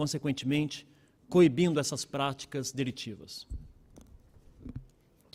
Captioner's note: speaking Portugese